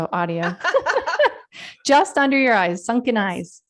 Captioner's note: laughter